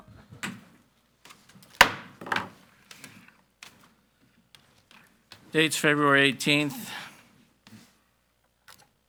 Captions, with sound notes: (gavel banging) - Date's February 18th.